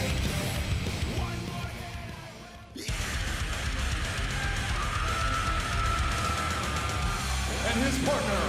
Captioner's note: crowd cheering